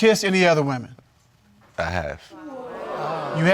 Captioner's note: audience exclaims